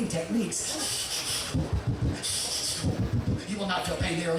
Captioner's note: breathing manically